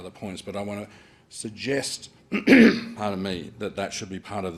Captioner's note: coughs